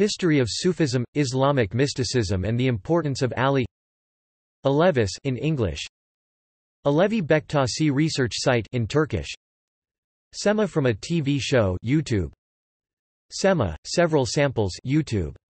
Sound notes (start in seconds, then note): 9.2 in Turkish